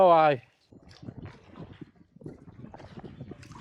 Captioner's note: water splashing